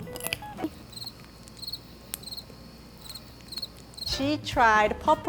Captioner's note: crickets chirp